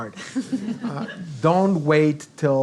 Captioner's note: giggles